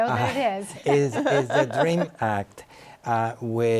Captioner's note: laughs